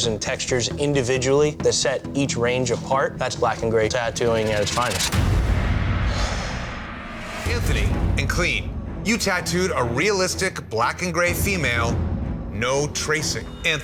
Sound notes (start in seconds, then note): 6.2 sighing